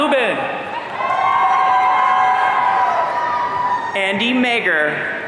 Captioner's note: audience cheering